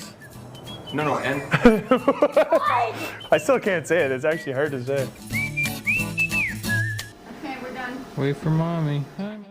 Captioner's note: laughter